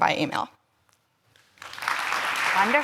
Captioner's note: applause